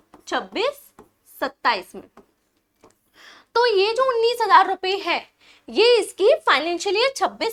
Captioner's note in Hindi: नाक से की जाने वाली आवाज़